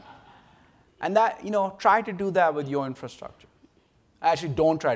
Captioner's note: laughter